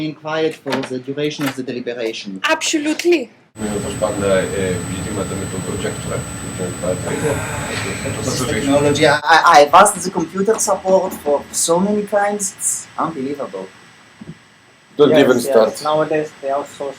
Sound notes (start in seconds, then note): 6.7 grumbles about issue with projector